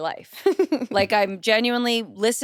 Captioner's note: chuckles